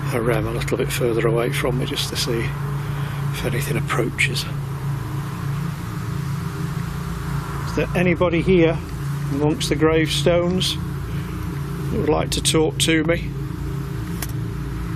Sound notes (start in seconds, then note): none